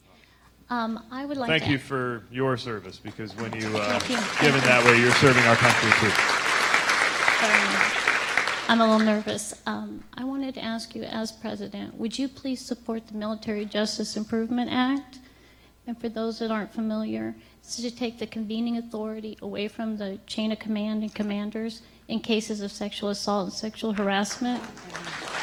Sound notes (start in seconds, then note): 7.6 applause